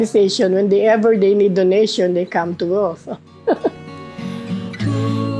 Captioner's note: laughter